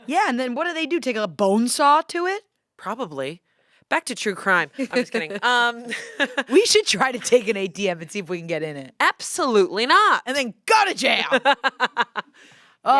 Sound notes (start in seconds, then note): 4.8 laughs; 11.1 laughs